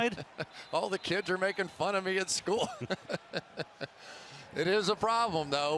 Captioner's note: chuckles